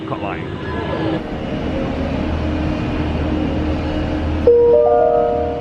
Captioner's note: machine roaring; bell chiming